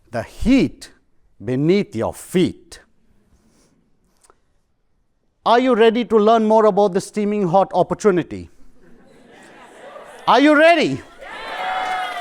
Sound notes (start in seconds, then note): 8.6 laughter